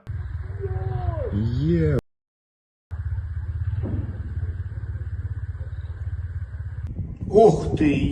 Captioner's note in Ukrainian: вибухи